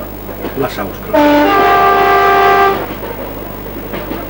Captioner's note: annoying Train Horn